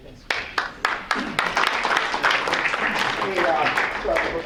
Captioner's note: applause